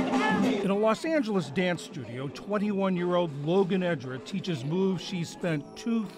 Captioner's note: voice-over